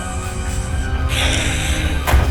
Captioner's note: dramatic music; snake hissing; dramatic music